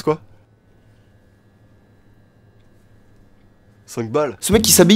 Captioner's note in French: silence